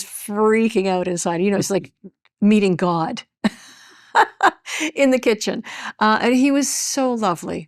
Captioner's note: chuckles